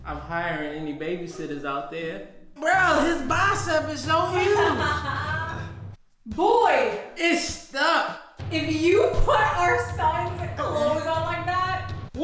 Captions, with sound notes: I'm hiring any babysitters out there. Bro his bicep is so huge. - (laughs) Boy. - It's stuck. - If you put our son's clothes on like that...